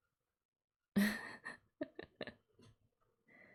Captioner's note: laughs